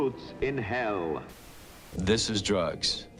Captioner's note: static crackles